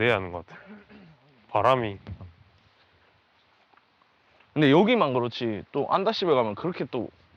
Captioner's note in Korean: 목을 가다듬음